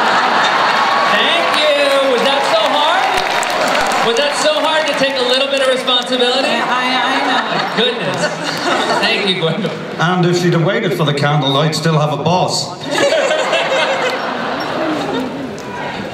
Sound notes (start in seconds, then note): 0.0 laughter; 12.8 laughter